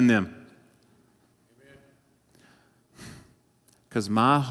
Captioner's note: sigh